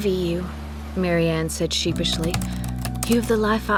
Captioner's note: typing